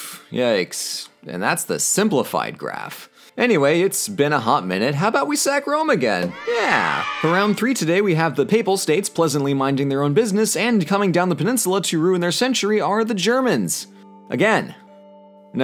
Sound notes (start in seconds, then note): 6.2 children Cheer